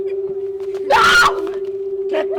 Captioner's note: screams